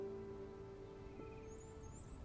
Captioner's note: birds chirping